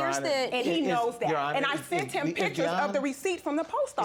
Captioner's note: stuttering